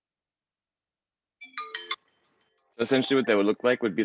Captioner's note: phone ringing